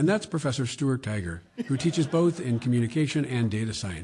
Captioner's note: laughter